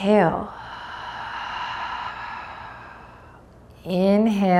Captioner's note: deeply exhales